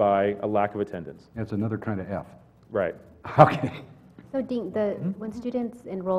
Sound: laugh

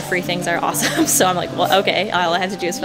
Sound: laughing

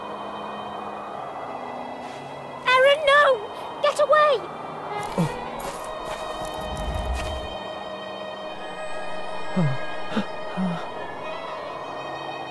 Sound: in-game audio

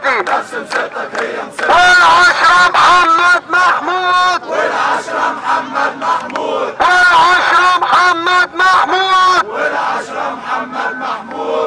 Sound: chants

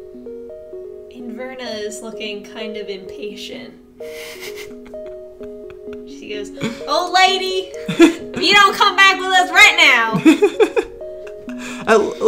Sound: both laugh

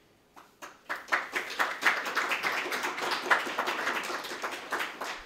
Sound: audience clapping

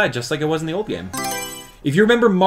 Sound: Mario Selection Sound

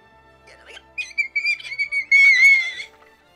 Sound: repetitive omg, omg while squealing

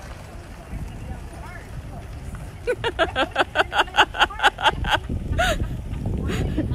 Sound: laughter

